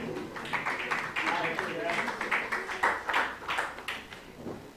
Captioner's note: applause